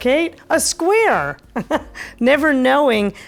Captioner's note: laughs softly